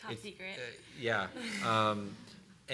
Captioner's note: laughing